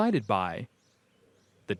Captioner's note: none